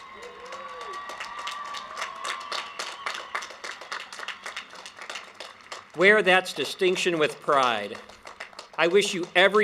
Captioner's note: applause and cheering